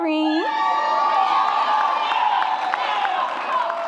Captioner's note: audience cheers